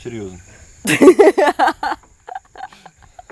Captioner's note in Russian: Смех